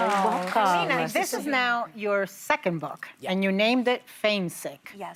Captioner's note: applause